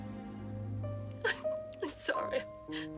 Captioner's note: crying